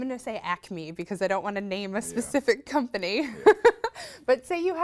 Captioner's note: laughs